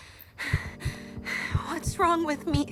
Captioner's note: heartbeats; Mischa gasps